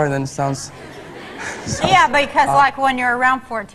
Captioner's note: audience laughs